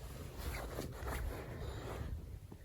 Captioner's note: none